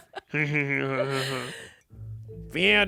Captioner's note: chuckles